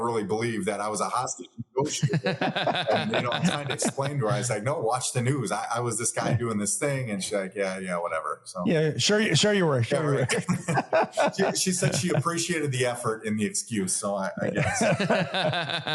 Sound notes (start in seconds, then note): 1.8 laughs; 10.0 laughs